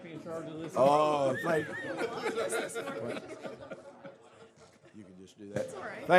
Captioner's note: laughter